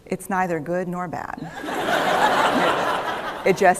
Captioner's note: laughter